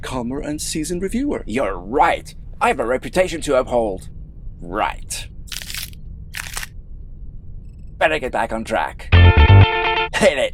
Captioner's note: crack